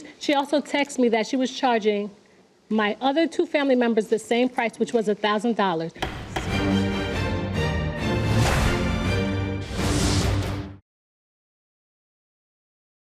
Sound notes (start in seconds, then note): 6.0 mallet thudding; 6.1 bright music